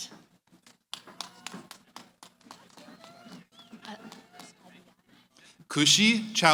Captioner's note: applause